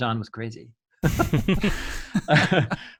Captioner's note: men laughing